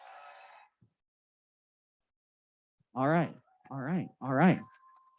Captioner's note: applause